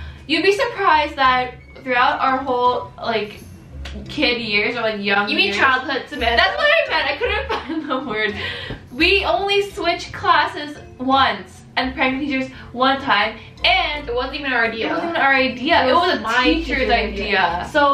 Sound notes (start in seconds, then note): 8.4 laughing